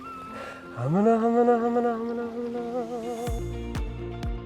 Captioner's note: humming; bright music